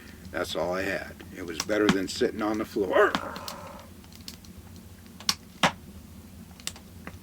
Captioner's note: winces in pain